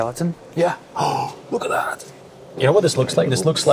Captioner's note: gasps